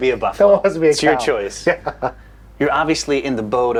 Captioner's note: laughs